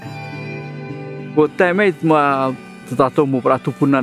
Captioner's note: speaking native language